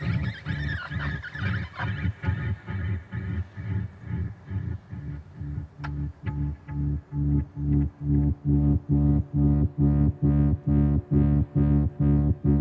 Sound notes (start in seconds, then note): 0.0 bird calling; 9.7 intense music